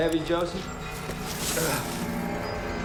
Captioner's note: grunts